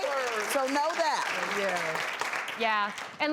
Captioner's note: audience clapping